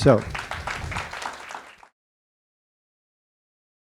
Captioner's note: attendees clapping